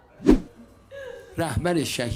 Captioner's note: laughter